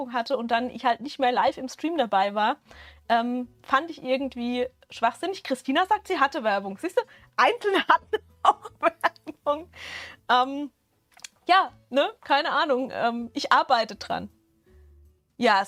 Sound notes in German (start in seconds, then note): 8.6 Gelächter